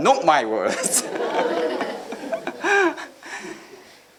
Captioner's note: chuckling